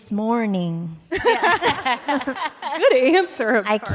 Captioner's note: laughter